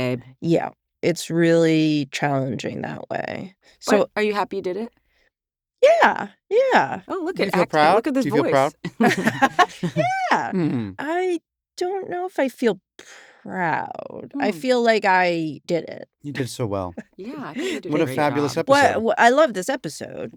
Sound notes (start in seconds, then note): 5.6 in higher pitch; 7.2 laughs; 10.8 in usual pitch